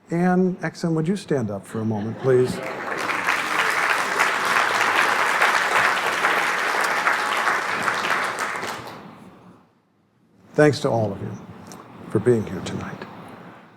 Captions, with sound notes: Anne Exum, would you stand up for a moment please? [applause] Thanks to all of you for being here tonight.